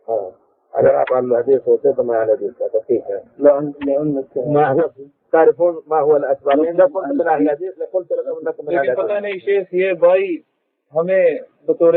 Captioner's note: speech in Urdu